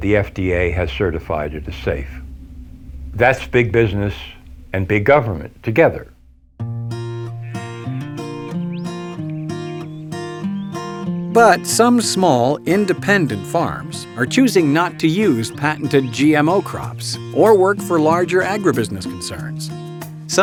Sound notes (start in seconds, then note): 7.2 peaceful music; 11.9 voiceover